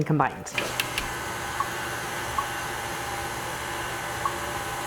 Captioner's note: mixer whirring